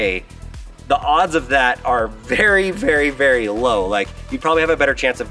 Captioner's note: laughing